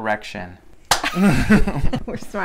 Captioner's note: laughing